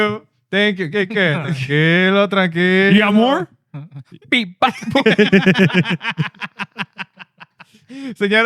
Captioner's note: laughing; speaking In Foreign Language